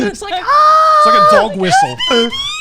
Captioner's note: laughing; screaming softly